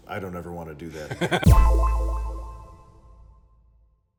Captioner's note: sharp tone echoing